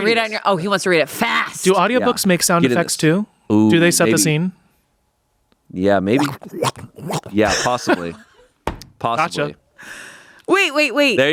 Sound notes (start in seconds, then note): 6.2 makes sloshing sounds; 7.4 laughs